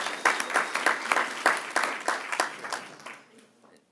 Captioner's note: applause